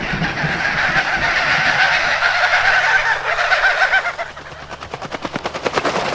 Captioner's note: a large number of birds fly off in a panic